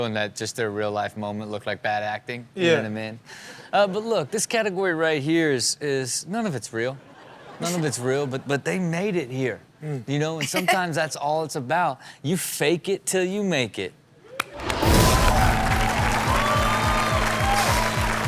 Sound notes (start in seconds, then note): 10.4 Chanel giggles; 14.3 crowd applauds and cheers